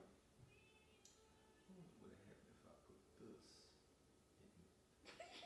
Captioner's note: sucks teeth; laughing